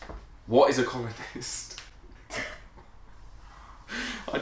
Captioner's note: laughing